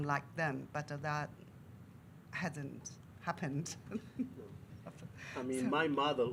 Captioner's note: laughs